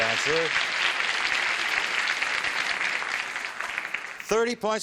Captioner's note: applause